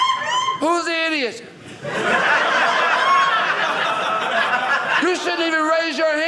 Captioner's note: audience laughing